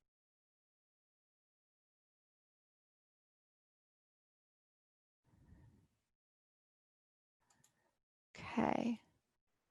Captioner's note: silence